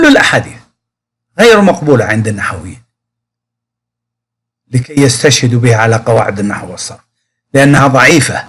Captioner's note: arabic Language